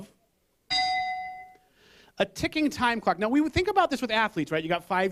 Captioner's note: bell